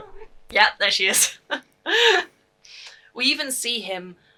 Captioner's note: cat mrrp